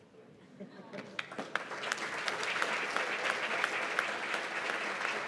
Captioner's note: applause